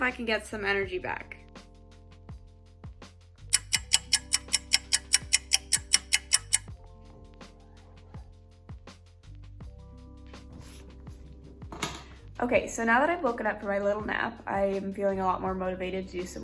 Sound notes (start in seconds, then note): 3.5 clock ticking; 7.2 lofi music